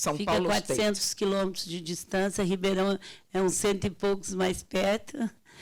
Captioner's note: speaking Portuguese